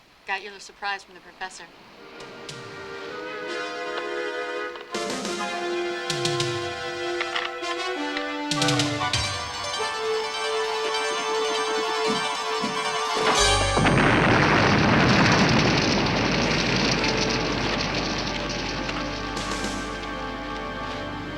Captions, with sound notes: - I got your little surprise from the Professor. (ominous music) (boomerang whirring) (explosion booming)